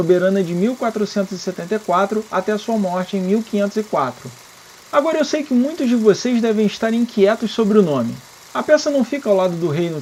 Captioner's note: in Portuguese